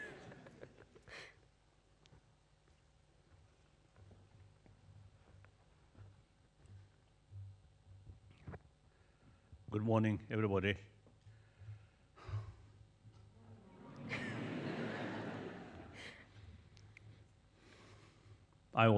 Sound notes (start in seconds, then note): 0.0 laughs; 12.2 sighs; 13.6 audience laughs